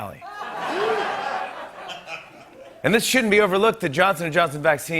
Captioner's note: light laughter